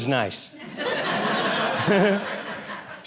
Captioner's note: audience laughing